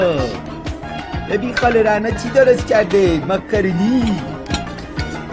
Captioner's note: Mimicking Spongebob